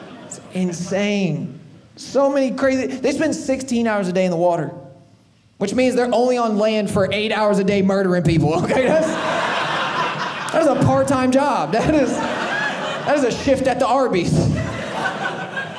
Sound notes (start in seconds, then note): 8.5 audience laughing